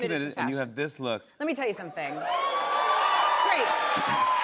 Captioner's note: cheers and applause